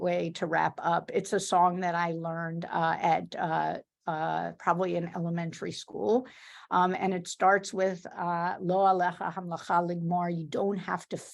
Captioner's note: speaks in Hebrew